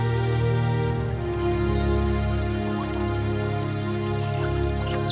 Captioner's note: birds chirping